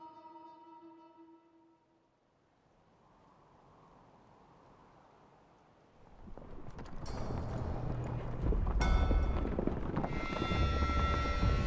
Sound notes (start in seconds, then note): 2.4 wind blowing; 9.5 horses galloping